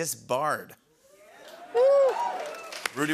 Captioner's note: cheers and applause